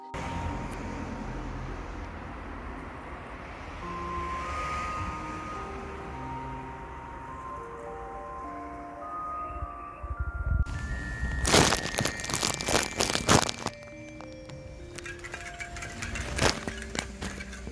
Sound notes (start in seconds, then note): 11.3 crunkley bag noises; 14.8 spokey dokes on a slow turning wheel